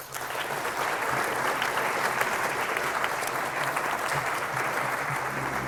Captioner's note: applause